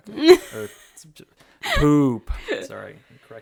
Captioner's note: laughs